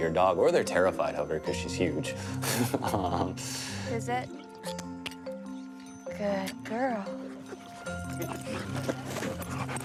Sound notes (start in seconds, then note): 2.5 laughs